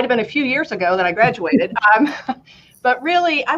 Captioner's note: laughter